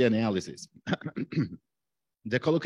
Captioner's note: clears throat